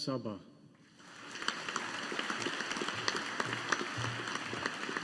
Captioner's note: audience applauding